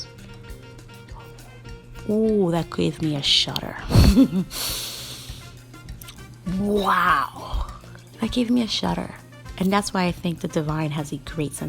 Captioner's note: giggling